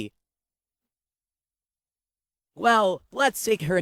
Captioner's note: silence